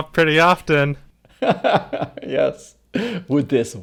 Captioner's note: laughs